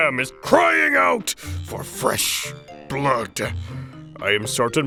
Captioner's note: crying out